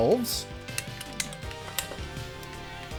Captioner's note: toy clicking with each snap